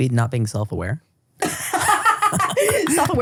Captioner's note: laugh